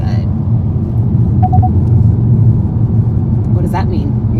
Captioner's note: car beeps